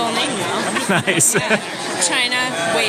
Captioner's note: laughing